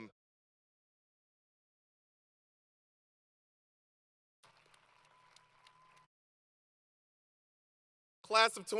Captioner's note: applause